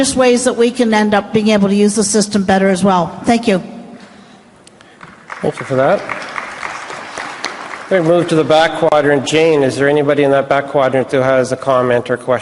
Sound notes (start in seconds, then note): 4.9 applause